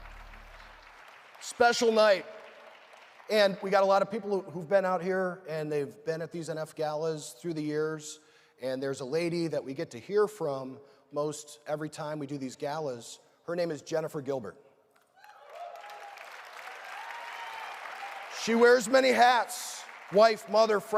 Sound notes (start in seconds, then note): 0.0 applause